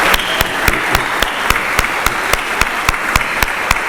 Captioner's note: applause